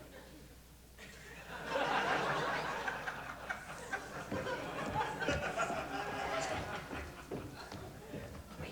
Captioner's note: light laughter